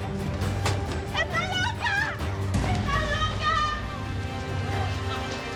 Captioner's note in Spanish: Gritos